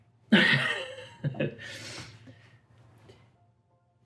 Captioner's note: laughs